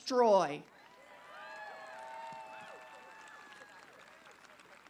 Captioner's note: applause